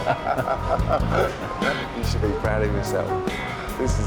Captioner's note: laughs